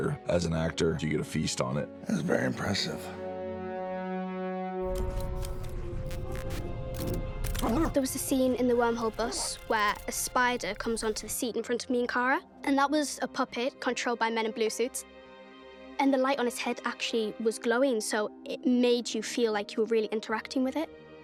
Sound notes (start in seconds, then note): 4.8 robot buzzes; 7.4 robot chitters